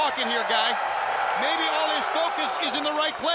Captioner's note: crowd cheering